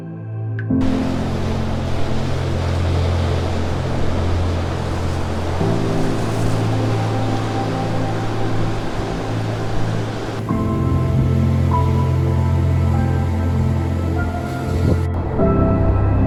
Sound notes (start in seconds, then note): 1.8 wave sounds and music